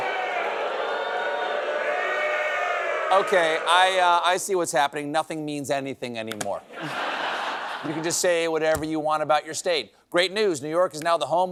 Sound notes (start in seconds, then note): 0.0 audience reacts